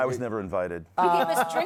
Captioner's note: laughter